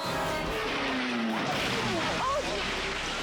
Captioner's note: motorcycle crashing